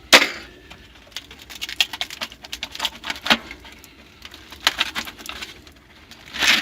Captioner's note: creaking sounds as I am wiggling the furnace filter loose